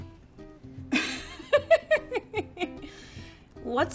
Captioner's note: laughing